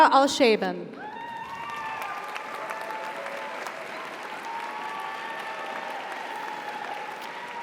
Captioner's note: audience cheers; audience applauds